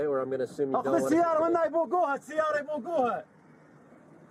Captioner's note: speaking Arabic